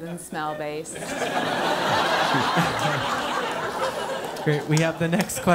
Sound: laugh

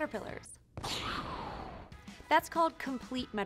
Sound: mimics explosion

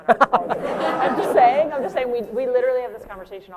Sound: laughter

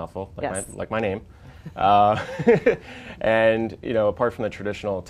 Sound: chuckling

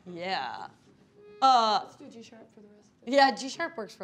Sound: speaking faintly

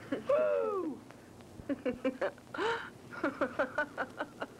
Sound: Ev laughing

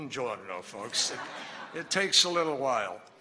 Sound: laughter

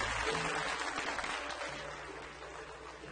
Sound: audience applauds

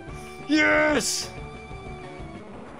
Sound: deep voice

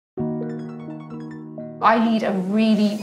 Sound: gentle music; phone rings

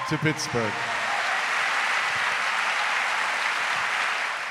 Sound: audience cheers

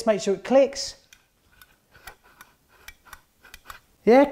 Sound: clicking sound

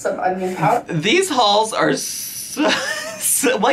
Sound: laughs

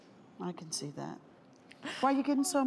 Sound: cries

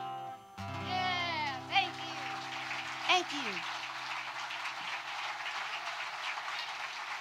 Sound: audience applauds

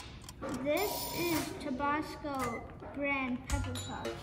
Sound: alarm ringing

